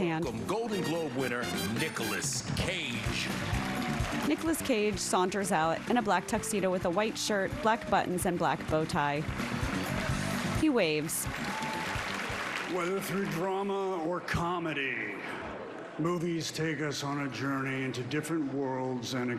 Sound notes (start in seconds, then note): 6.7 applause